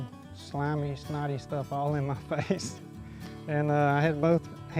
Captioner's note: laughs